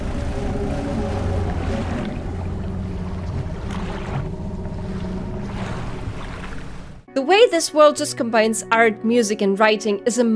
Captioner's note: unsettling deep growl